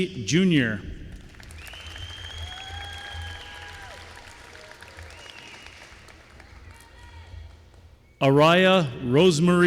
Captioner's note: applause